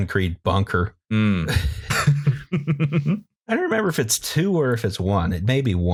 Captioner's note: laughter